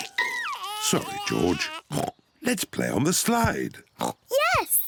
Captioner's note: oinks; oinks